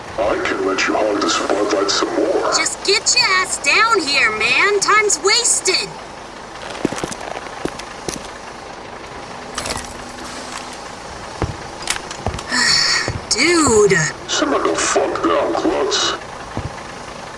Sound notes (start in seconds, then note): 12.5 Clown Pyro sighs, annoyed